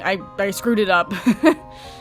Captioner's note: laughing